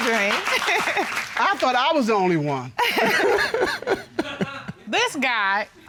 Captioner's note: laughs; both laugh